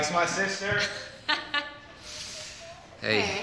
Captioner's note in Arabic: يضحك